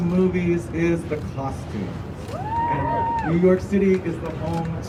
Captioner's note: crowd cheering